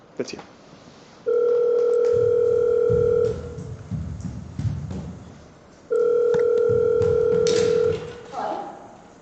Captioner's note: phone ringing